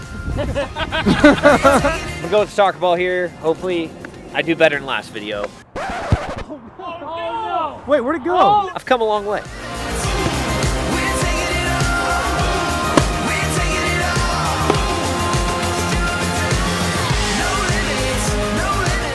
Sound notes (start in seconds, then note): 0.2 laughter; 7.9 voiceover